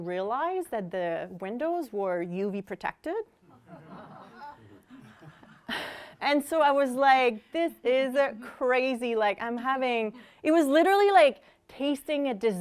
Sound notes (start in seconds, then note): 3.5 laughter